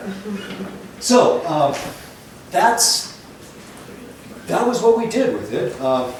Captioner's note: laughter